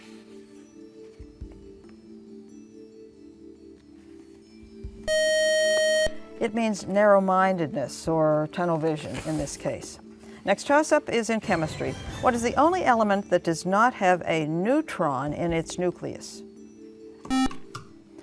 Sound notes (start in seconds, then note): 5.0 buzzer; 17.3 buzzer